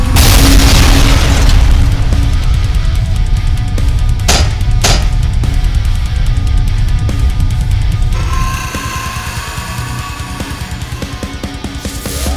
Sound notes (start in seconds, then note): 0.0 ground crashes; 4.2 legs clank; 8.1 scorpion beast shrieks; 12.1 electricity crackling; 12.1 stinger whirring